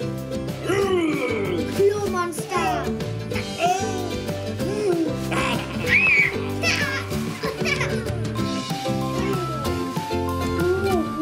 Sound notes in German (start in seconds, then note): 5.4 Quieken und Schreien; 8.4 fröhliche Musik